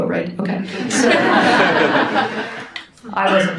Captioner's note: audience laughs